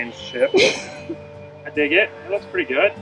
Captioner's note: chuckles